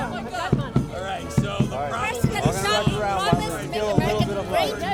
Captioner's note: crowd talking